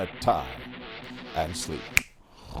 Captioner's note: snap!